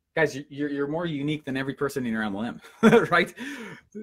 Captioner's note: laughs